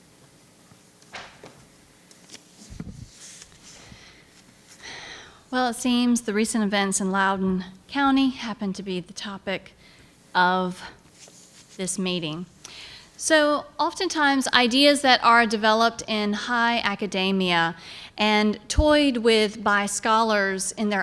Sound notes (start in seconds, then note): 2.1 paper rustling; 4.8 sighs